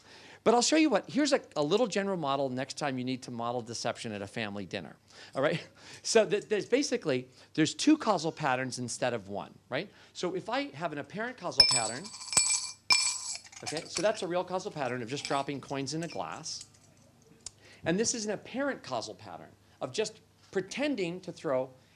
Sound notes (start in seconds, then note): 11.5 coins clink in glass